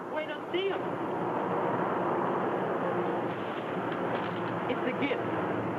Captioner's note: Julie speaks in foreign language